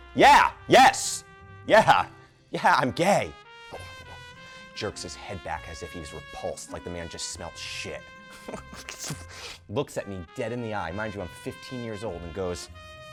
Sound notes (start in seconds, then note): 8.4 scoffs